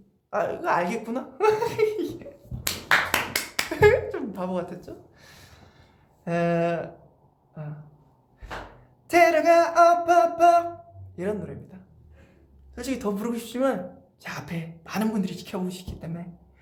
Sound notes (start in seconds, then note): 1.6 claps and giggles